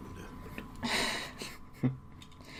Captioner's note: chuckling